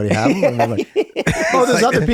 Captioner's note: group laughs